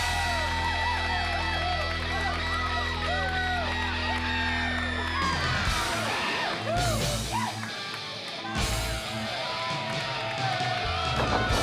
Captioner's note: crowd cheering